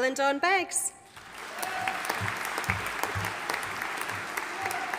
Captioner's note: audience applauding